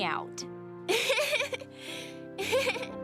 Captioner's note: giggling